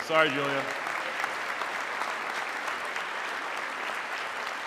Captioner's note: audience clapping